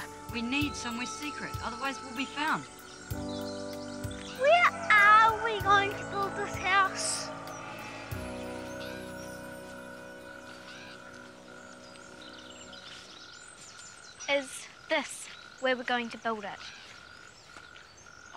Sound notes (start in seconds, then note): 7.8 birds chirping